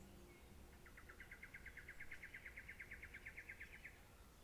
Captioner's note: birds chirping